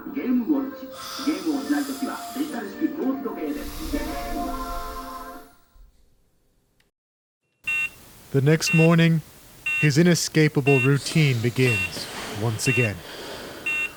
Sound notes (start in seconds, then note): 7.3 man in commercial speaking in Japanese; 11.6 alarm beeping